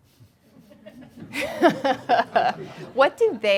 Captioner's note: laughing